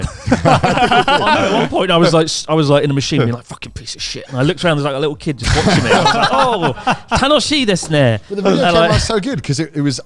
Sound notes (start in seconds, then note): 0.0 all laughing; 5.4 all laughing; 7.3 speaks Japanese